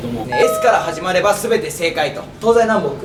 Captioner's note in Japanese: ピンポーン